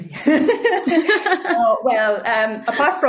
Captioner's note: both laughing